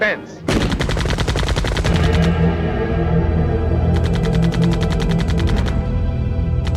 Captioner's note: gunfire blasting; intense orchestral music